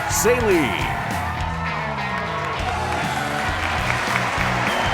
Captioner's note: cheers and applause